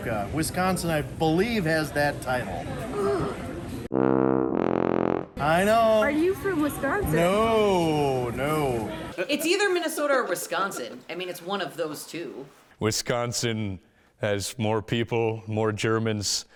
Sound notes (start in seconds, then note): 2.8 person gasps; 3.9 tuba blows